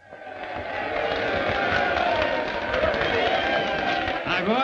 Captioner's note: crowd cheering